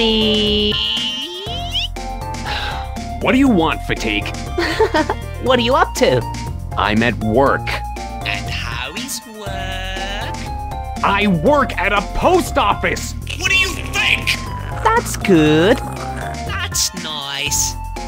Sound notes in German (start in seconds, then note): 2.4 Seufz; 4.6 kichern